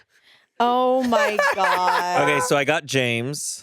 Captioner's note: laughs